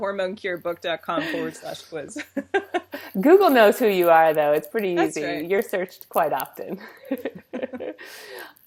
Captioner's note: laughs